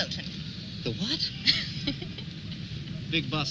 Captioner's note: laughing